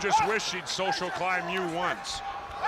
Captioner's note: crowd chatter